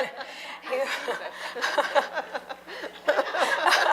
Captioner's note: laughter